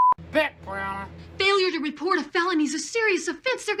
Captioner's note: on TV